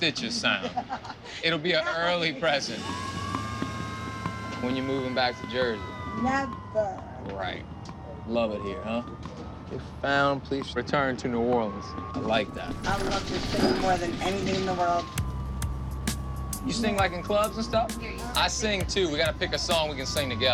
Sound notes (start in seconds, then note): 0.2 laughs; 2.4 siren wailing